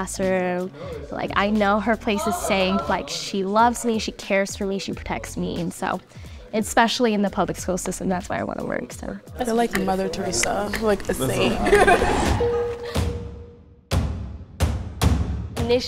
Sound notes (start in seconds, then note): 11.8 bell dings; 13.8 drumming music